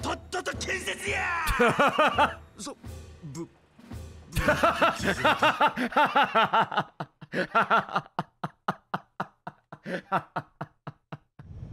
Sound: laughs

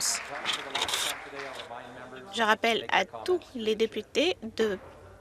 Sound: some Applause

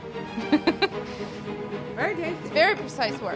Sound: laughs

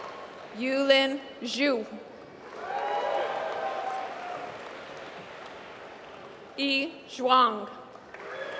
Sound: applause

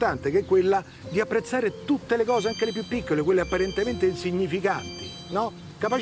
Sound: cell phone rings

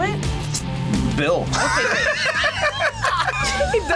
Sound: laughs

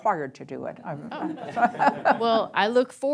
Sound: chuckles

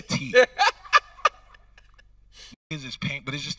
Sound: laughing

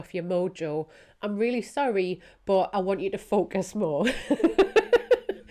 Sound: laughs

